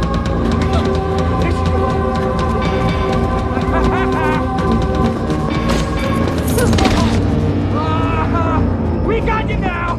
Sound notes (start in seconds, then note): 6.4 Danny laughing